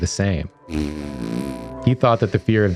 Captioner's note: blowing raspberry